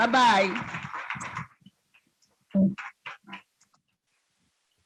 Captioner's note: students clapping